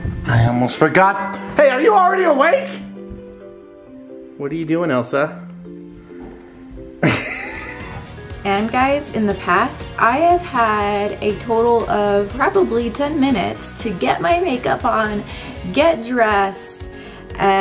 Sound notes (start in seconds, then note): 7.0 laughter